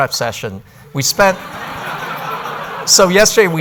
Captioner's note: laughter